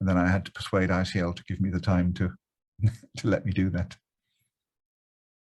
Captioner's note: chuckles